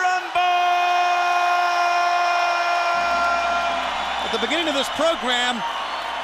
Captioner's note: crowd cheering